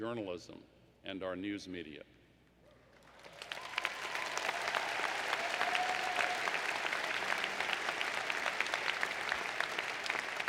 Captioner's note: applause